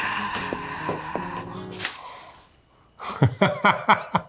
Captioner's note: feet thumping; sighing; laughs